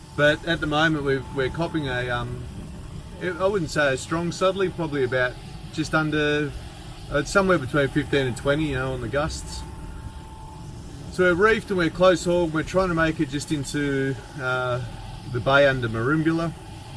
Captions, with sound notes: But at the moment we're copping a... (wind blowing) I wouldn't say a strong southerly. Probably about just under, somewhere between 15 and 20 along the gusts. So we reefed and we close-hauled. We're trying to make it just into the bay under Merimbula.